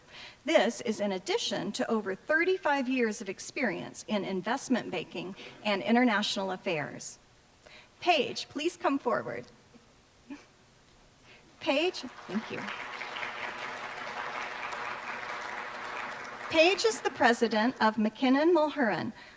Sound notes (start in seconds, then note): 11.8 applause